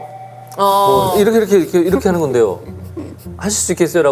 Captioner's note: heavy breathing as a sign of agreement